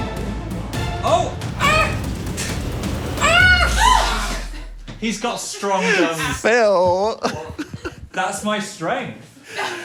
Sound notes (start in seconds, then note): 3.2 crew member screams; 5.5 laughs